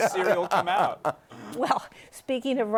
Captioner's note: laughter